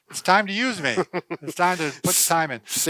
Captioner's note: chuckling